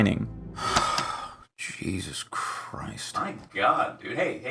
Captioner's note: sigh